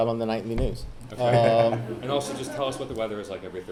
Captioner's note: audience laughing